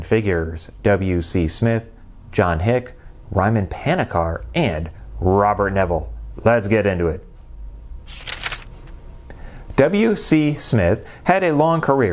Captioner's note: page turning